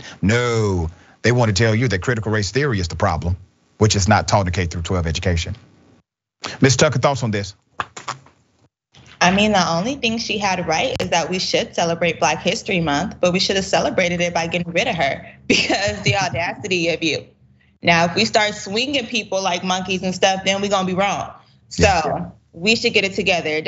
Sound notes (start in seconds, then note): 15.4 laugh